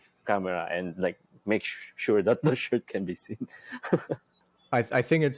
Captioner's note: laughs